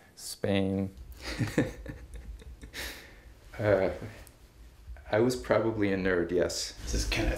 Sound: laugh

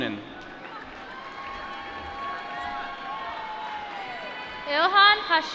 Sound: applause

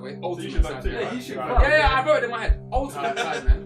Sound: all chattering

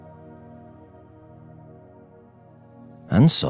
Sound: 5s silence

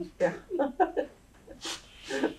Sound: laughter

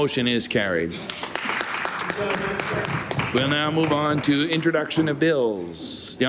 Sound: applause

